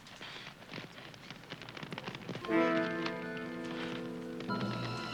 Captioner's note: crackling